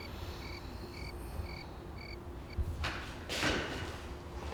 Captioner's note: crickets chirping